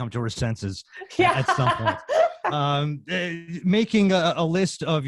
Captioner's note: laughs